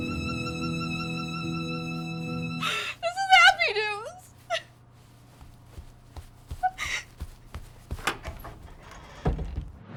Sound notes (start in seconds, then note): 0.0 sad music; 6.6 Esther whimpers; 8.0 glass door clangs